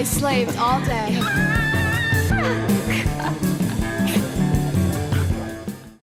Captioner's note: laughs